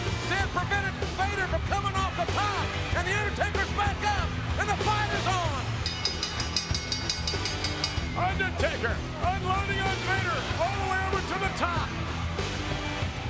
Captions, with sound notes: Sid prevented Vader from coming off the top and the Undertaker's back up and the fight is on. (bell dings) (ominous music) Undertaker unloading on Vader all the way over to the top.